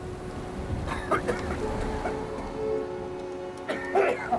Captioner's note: dramatic music; man coughing